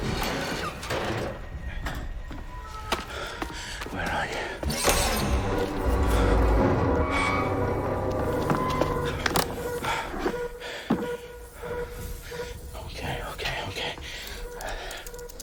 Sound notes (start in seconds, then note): 2.8 efforts; 8.5 breathing; 14.0 breaths